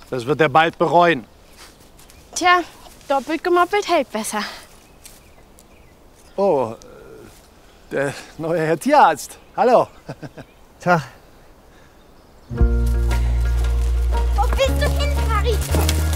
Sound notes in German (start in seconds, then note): 10.0 Gekünsteltes Lachen; 12.6 Angespannte Musik